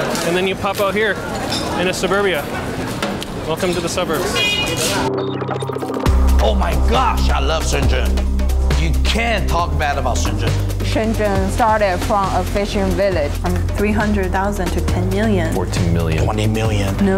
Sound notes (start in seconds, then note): 0.0 tape cracking; 4.1 horn honks